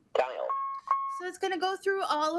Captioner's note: beeping